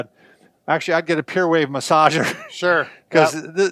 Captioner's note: laughs